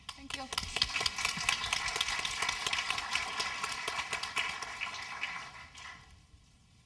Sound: applause

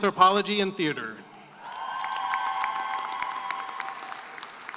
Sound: cheering and applause

